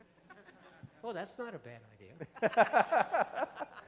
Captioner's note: voiceover; laughter